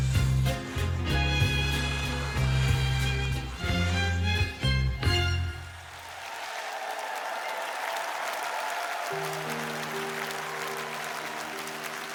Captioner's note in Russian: аплодисменты; ликование